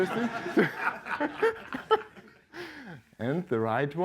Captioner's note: laughter